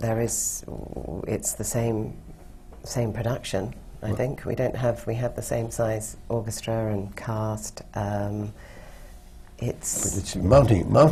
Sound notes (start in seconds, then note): none